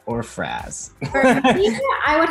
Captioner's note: laughing